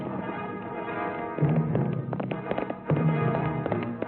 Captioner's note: horse galloping